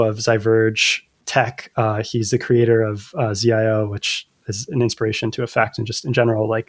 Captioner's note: uh